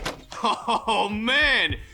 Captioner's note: Scout laughing